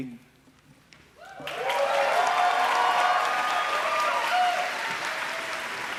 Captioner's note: applause